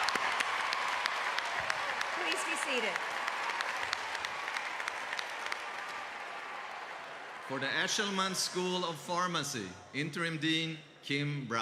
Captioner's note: cheers and applause